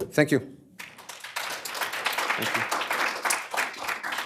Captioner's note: applause